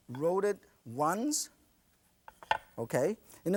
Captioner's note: none